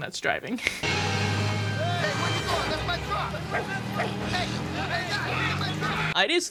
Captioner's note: loggers shouting